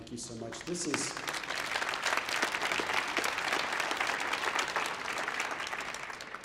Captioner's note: audience applauding